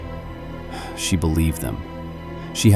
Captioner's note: sighs